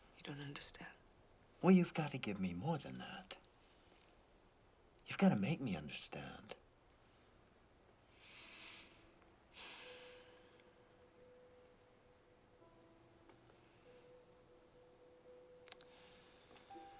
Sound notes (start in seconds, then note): 9.6 Jules sighs; 13.9 melancholy music